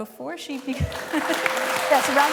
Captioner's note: applause